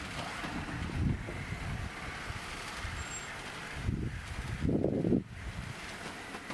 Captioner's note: wind howling